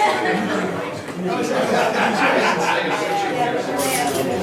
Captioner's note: overlapping chatter